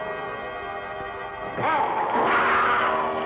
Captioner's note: wolfman growling